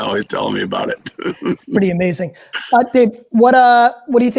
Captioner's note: David laughing